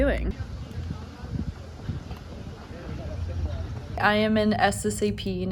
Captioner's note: students chattering